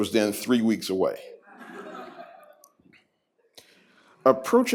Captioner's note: laughter